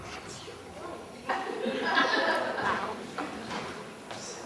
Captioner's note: laughter